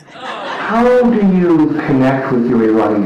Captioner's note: laughter